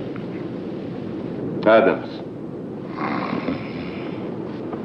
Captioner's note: snoring